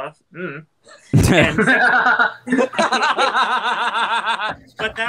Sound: soft laugh; group laughter

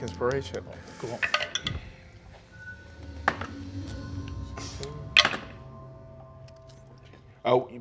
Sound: dice rolling

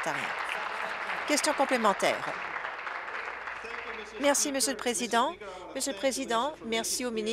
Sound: applause

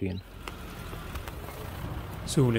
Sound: car engine driving

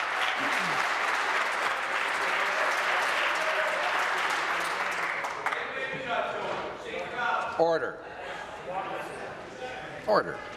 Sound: applause

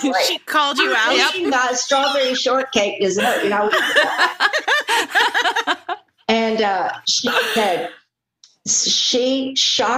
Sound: laughter

